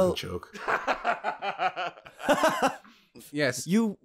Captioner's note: laughter